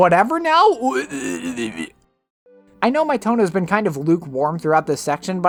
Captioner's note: incoherent babbling